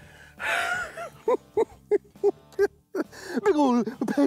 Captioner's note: giggles